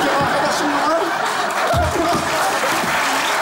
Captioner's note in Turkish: Alkış sesleri